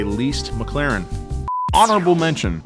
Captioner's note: screen beeps